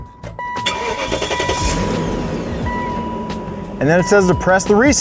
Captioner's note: car engine starts